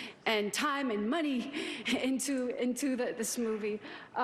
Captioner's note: none